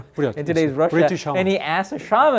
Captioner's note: speaking in Korean